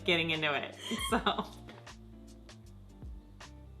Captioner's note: laughs; soft electronic music